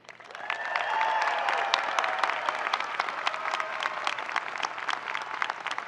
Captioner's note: audience cheering and applauding